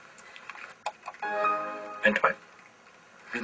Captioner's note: Windows reboot sound